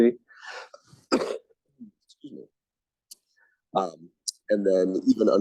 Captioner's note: sneezes